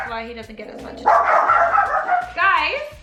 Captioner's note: barking